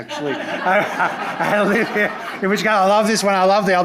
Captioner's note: chuckles